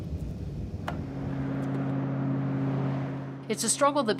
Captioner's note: traffic whooshing